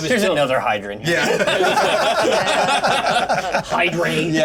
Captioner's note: laugh